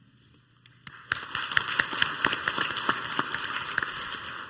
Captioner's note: clapping